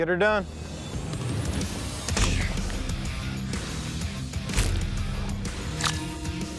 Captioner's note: impact sounds